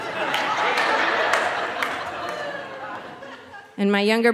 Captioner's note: audience laughing